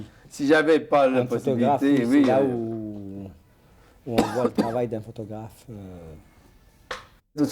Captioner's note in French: toux